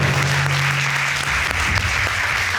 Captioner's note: applause